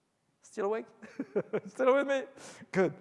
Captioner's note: laughs